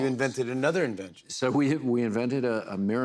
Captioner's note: none